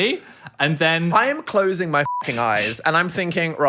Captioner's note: beep